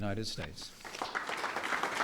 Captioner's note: applause